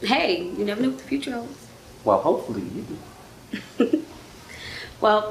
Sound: giggle

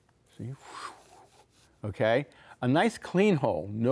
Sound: airy breathing

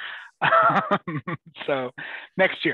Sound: laughs

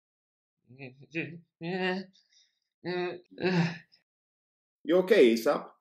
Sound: whimpering

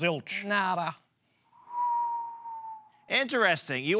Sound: whistle

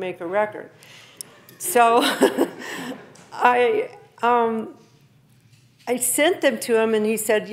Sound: laughing

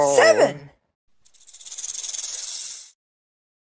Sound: rattle sound

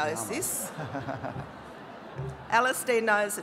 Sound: murmuring

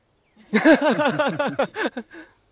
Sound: laughing

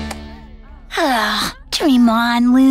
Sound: sighing

